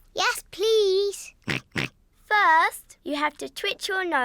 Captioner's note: snorts in agreement